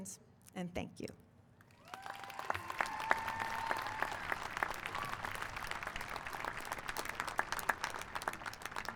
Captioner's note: applause